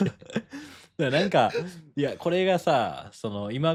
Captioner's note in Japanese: 笑い